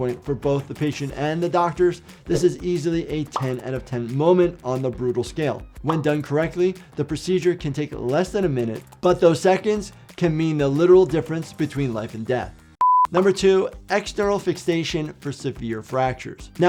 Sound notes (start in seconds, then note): 12.8 beep